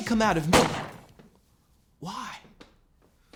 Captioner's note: gunshot